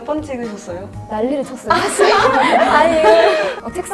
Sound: laughter

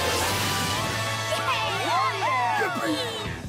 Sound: all cheering

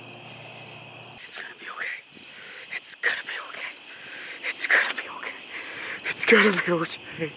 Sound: exasperated

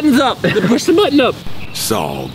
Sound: laughing

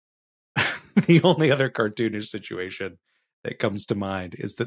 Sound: chuckles

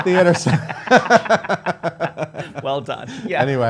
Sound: laughing

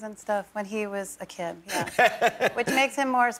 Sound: laughter

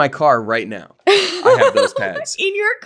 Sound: laughing

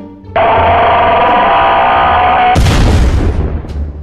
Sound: jumpscare noise; explosion

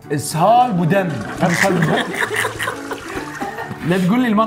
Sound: both laugh

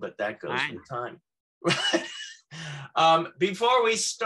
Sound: laughing

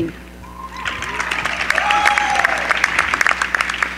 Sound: cheering

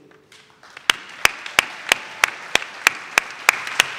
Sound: audience claps

